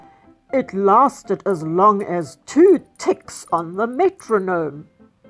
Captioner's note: ticks